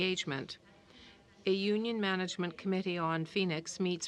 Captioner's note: speaking in french